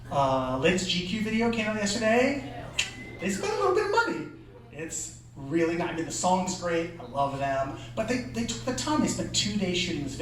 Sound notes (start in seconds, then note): none